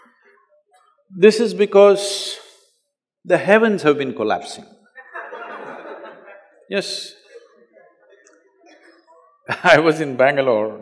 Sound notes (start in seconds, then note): 4.9 few laugh